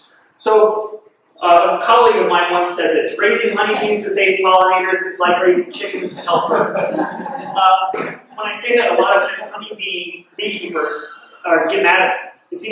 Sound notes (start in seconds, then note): 7.0 laughing